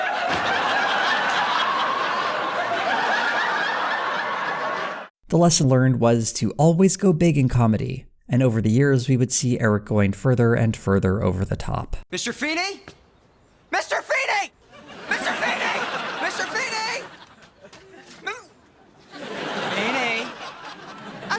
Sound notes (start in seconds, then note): 0.0 audience laughter; 14.6 squeaking voice